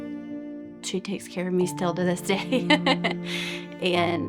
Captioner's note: laughs